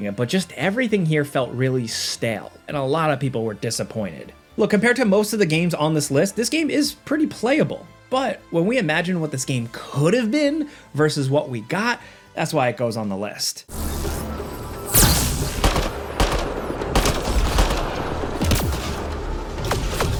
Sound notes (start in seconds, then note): 13.7 tense music; 14.9 gun firing